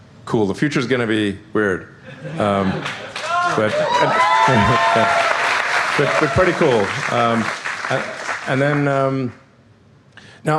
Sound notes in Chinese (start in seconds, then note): 2.8 掌聲